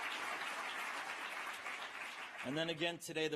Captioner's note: applause